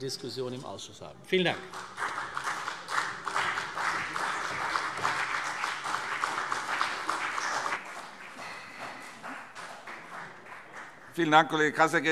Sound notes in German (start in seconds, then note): 1.4 Beifall CDU und vereinzelt BÜNDNIS 90/DIE GRÜNEN